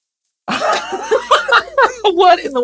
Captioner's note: both laughs